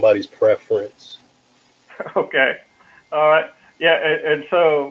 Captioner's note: laugh